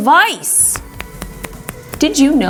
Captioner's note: clicking